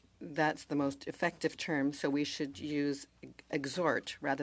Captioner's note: speaking French